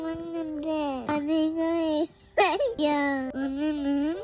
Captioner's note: giggles